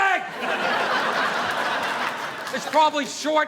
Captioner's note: audience laughing